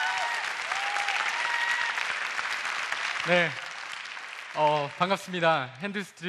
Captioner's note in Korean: 박수와 환호